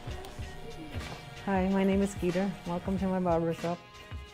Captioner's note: electric razor buzzes